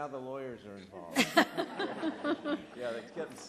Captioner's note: laughter